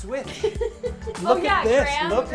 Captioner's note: laughs